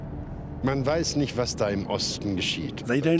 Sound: speaking German

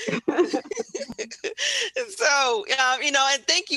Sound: laughter

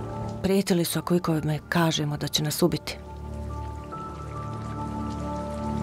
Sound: woman speaking in foreign language

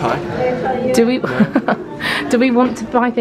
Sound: chuckles

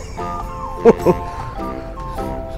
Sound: laughs

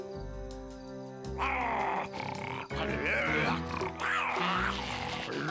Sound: muffin snarling

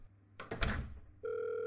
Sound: door closes; phone ringing

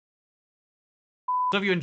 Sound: beep

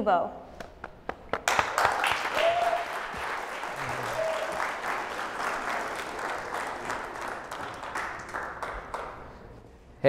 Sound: applause

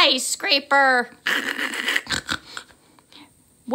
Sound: snorting laughter

